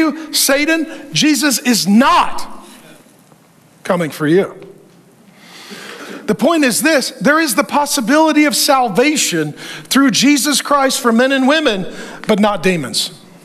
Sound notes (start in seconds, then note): none